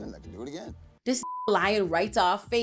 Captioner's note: beep